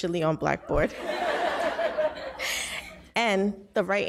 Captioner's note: audience laughs